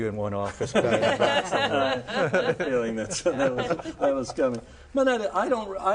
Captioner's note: group laughs